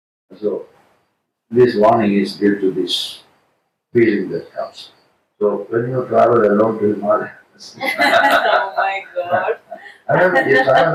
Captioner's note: laughing